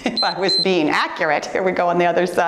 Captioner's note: timer beeps